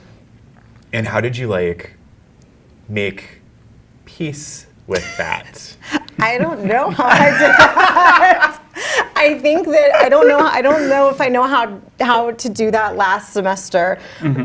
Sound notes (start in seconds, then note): 5.8 all laughing